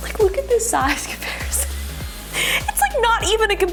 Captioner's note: laughs